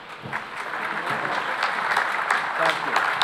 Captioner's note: applause